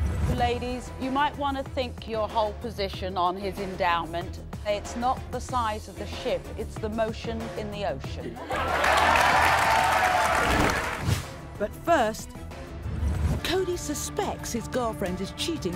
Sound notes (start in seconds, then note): 0.0 voiceover; 8.4 audience applauding, laughing; 11.7 voiceover